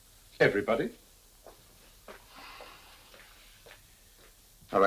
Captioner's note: footsteps tapping